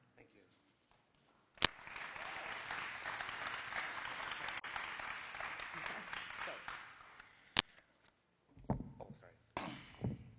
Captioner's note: applause